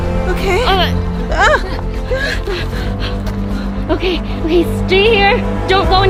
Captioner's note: gasps